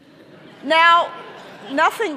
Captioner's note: audience laughing